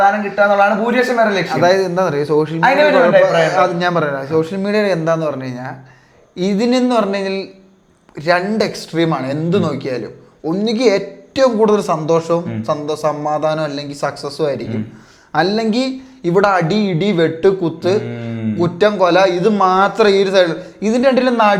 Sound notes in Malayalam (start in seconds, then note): 14.8 തൊണ്ട ശരിയാക്കുന്നു